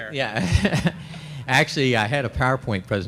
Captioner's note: laughs